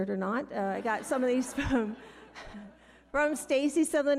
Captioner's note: audience laughing